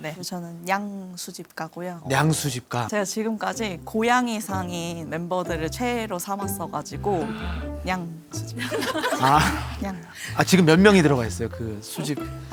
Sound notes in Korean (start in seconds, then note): 8.5 빵 터짐